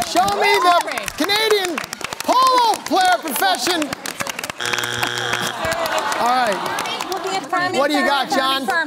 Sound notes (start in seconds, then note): 4.6 buzzer sounds; 7.3 chattering